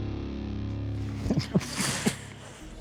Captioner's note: chuckles